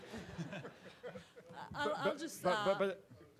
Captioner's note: participants laugh